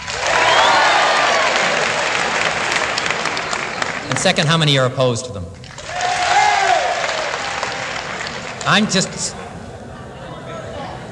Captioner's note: yells and applause; fewer yells and applause